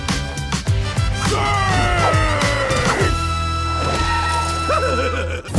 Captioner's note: laughing